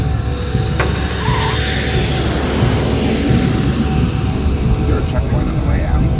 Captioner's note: brakes skidding; engine roars; radio traffic transmits faintly